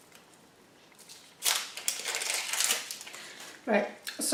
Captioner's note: second onion skin ripping off